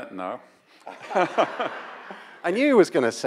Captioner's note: audience laughs